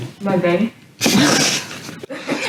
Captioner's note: laughs